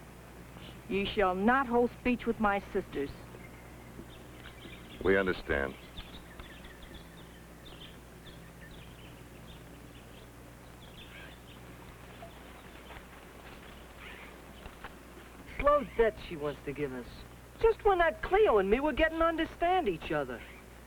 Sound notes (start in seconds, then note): 7.1 birds chirping